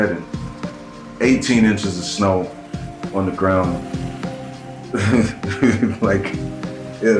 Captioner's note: chuckling